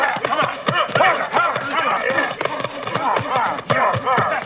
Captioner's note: exclaiming